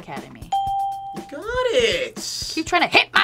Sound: bell rings

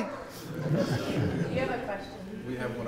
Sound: laughing

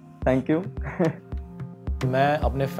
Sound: chuckles

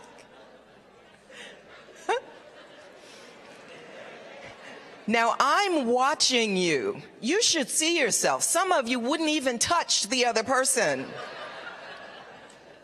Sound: laughter

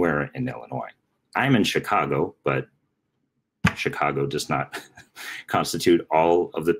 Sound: laughing

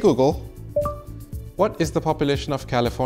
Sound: low beep

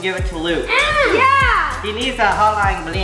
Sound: grunts

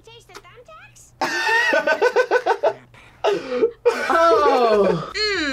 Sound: laughs

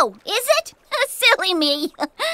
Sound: chuckles

